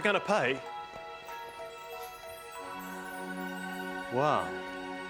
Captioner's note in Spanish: campanadas tintineando